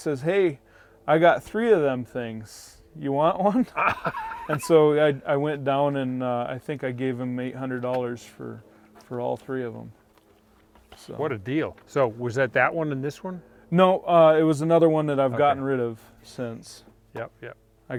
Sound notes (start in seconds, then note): 3.4 laughing